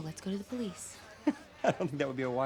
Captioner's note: Ryan laughs